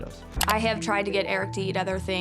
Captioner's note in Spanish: clics en la foto